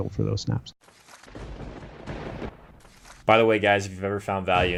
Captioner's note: thunder rumbles